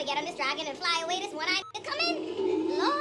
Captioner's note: beep